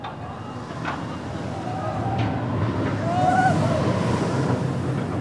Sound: roller coaster car whooshes

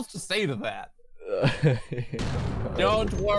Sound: chucking

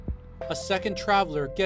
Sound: speaking spanish

